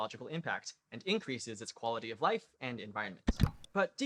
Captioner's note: click